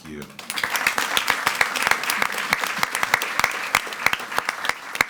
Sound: attendees clapping

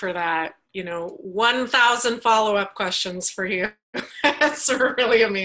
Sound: laughs

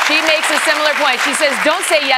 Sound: cheers and applause

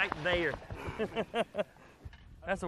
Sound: laughing

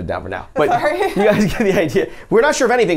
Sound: laughs

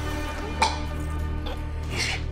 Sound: choking

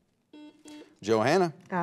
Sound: buzzer beeps

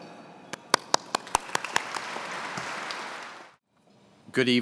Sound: audience clapping

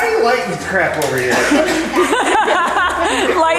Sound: people laugh

